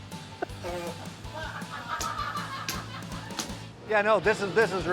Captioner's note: laughs; crew laughing